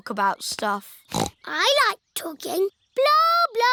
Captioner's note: snorts